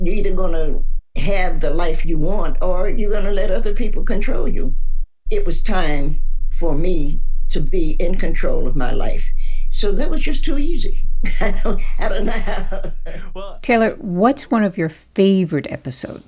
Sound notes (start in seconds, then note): 0.0 soundbite of archived recording; 11.3 laughter